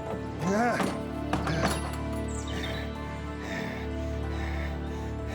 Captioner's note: grunts